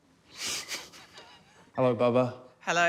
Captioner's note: chuckles